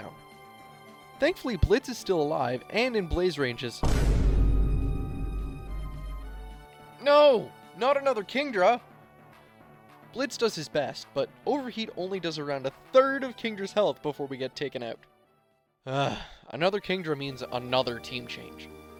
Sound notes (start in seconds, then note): 3.8 Vine Boom; 15.9 sigh